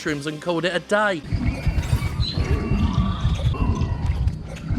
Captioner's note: eating and ambient jungle noises